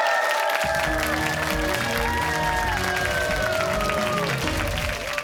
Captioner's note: cheers and applause